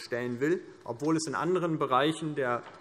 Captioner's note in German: none